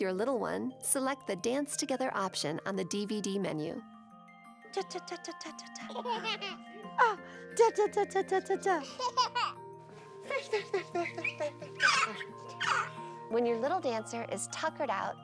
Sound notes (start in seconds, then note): 4.0 giggling; 4.0 woman humming song